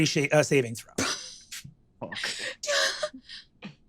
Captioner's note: giggles